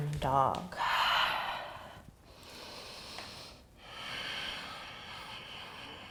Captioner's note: exhaling and inhaling